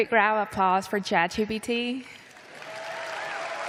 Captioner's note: applause